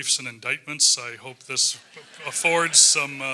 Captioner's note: laugh